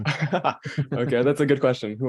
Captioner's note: laughing